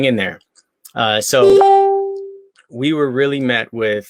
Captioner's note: beep